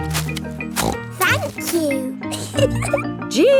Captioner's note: snorts; giggles